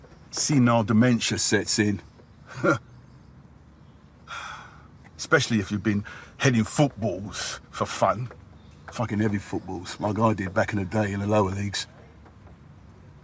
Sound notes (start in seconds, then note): 2.5 he chuckles; 4.2 he sighs